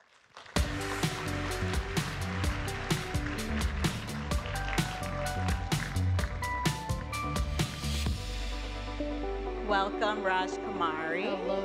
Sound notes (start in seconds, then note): 0.2 gentle upbeat music; 2.6 audience applauds